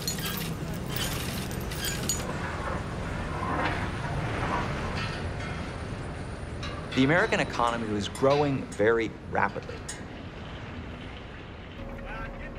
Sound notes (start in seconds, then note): 0.0 chains squeaking; 3.1 faint clanging